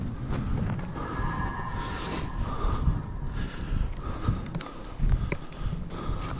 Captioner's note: spectral scream in the distance